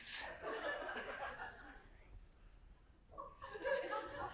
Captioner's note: audience laughs